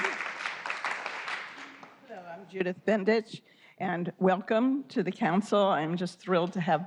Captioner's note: applause